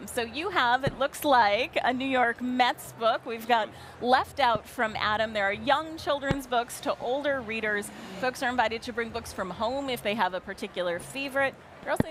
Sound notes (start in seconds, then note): none